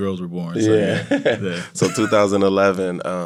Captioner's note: laughs